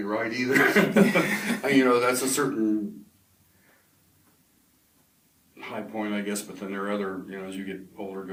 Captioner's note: both laugh